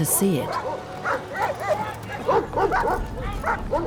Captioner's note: dogs barking